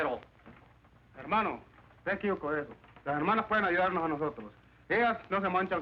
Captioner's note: speaking spanish